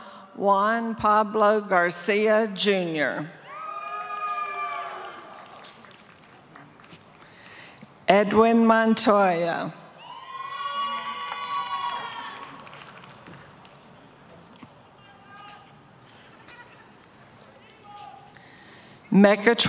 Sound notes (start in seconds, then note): 4.9 applause; 14.0 applause